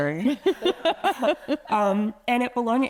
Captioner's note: attendees laughing